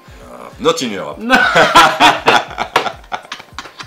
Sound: laughter

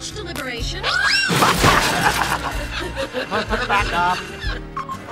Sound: groaning; laughs

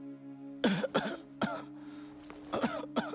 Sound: coughing

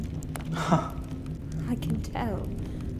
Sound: KIKI scoffs

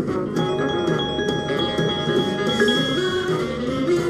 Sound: exciting swing music; bells ringing

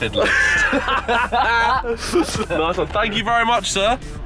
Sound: men laughing

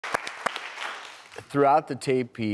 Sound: clapping

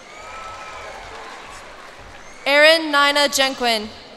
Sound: cheers and applause

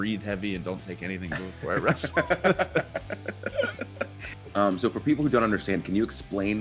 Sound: laugh

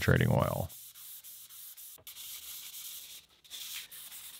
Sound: Scotch-Brite rasping

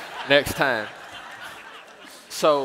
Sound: laughter

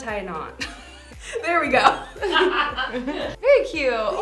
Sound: laughs

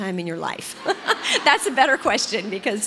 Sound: laughs

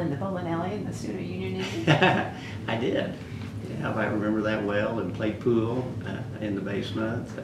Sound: laughs

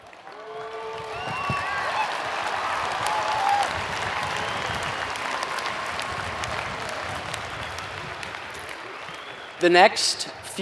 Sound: applause

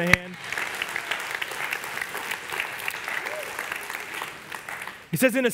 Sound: congregation applauds

